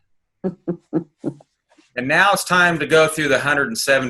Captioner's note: laughing